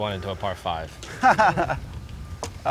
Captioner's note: chuckles